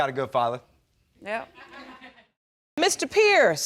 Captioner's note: crowd laughs